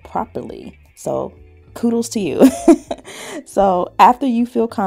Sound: chuckles

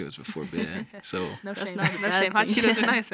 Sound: chuckles

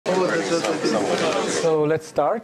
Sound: background chatter

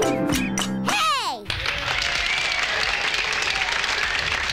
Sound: applause

